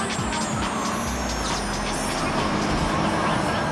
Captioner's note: siren wailing